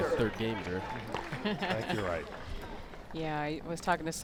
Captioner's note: chuckles